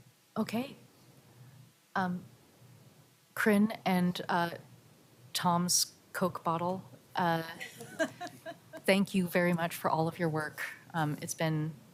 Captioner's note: laughs